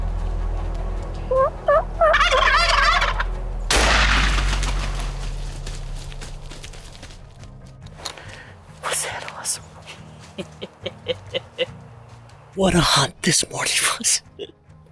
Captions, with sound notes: [TURKEY CALLING] [GUNSHOT] Was that awesome? [LAUGHTER] What a hunt this morning was.